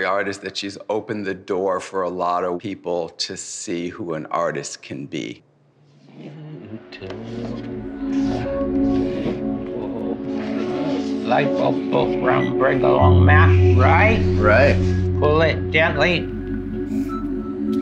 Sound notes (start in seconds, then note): 6.8 humming; 9.0 ambient music